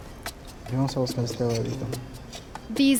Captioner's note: speaking Spanish